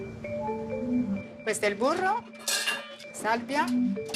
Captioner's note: speaking Italian